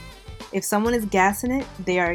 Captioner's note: voiceover